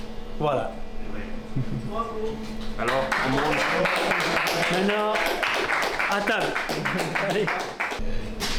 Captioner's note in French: clap clap